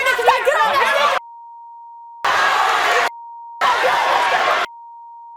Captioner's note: audience cheers